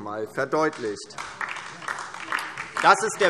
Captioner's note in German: Beifall DIE LINKE